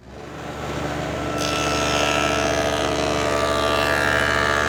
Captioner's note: blade cutting